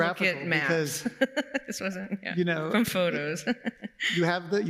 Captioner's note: laughs